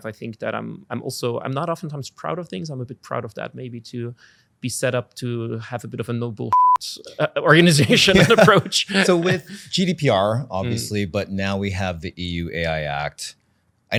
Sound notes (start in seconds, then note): 6.5 beep